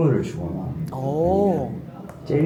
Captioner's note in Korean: 감탄